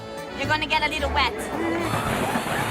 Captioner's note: people laughing and screaming; chuckles